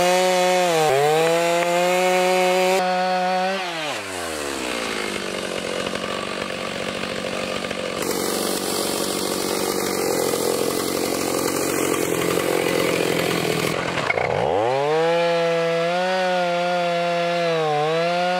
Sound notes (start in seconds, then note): 6.1 motor rumbling; 14.6 saw buzzing